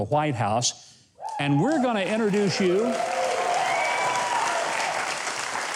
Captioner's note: audience cheers